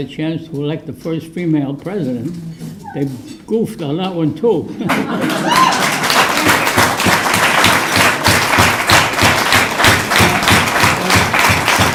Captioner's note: applause